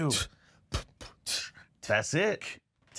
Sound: beatboxing

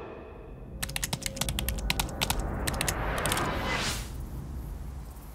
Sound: keys clicking

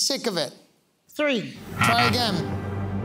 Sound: buzzer beeping

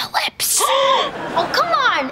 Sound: gasping

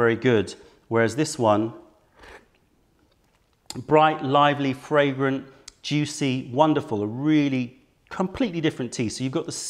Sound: sips tea

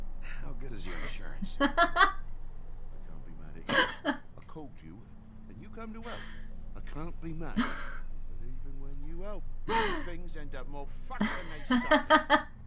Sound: laughs

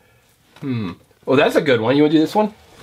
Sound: voiceover

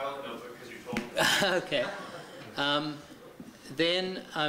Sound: laughter

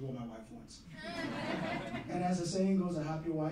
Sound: laughing

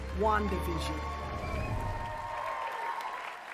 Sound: applause

